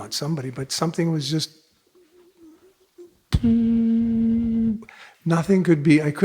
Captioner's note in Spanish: hace sonido de zumbido